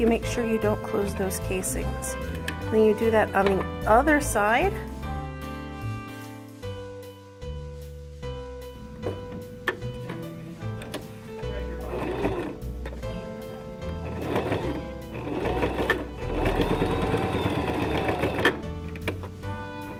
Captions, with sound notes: to make sure you don't close those casings, when you do that on the other side. (whirring)